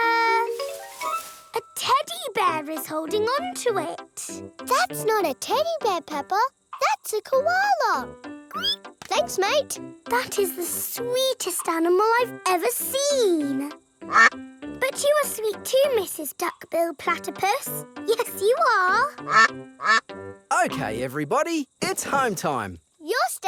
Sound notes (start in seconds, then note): 8.5 squeals; 14.1 quacks; 19.2 quacking